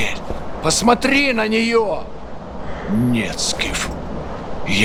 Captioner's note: speaking russian